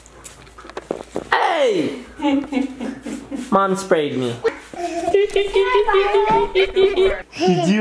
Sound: wiping noises

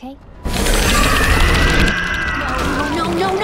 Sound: monster screeching

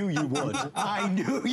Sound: laughter

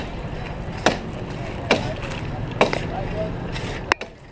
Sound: banging

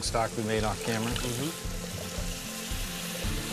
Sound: sizzling

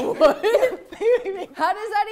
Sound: laughing

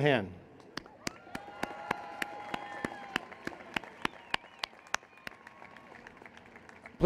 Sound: applause and Cheers

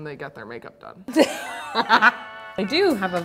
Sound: laughing

